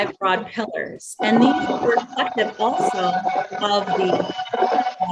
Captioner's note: technical noise